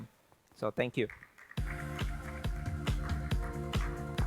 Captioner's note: applause